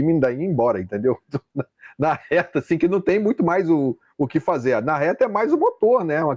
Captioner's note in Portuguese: risadas